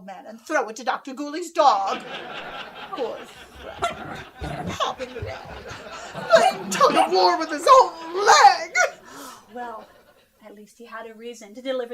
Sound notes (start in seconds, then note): 7.2 audience laughing; 8.5 sarcastically